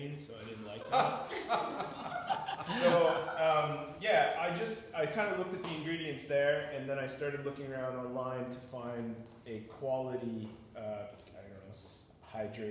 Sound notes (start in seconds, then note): 0.5 all laugh